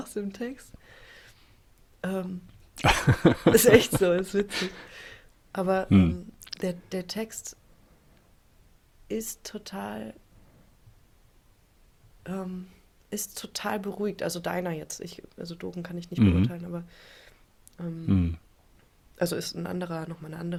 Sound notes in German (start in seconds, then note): 0.0 gelächter; 5.9 räuspern